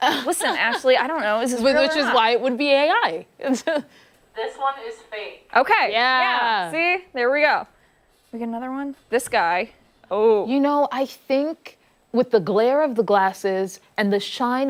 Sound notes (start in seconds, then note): 3.5 laughter